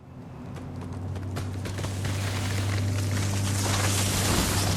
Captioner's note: tree creaks